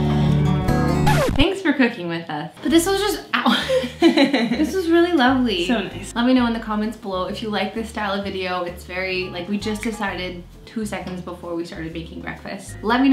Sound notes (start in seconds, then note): 1.0 record scratch; 3.5 laughing